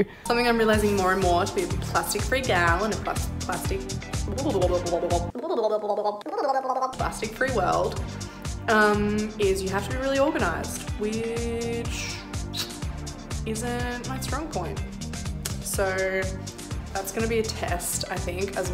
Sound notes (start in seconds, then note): 4.4 burbling